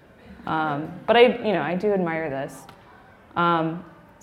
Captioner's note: laughing